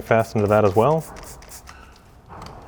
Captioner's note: bottle spritzing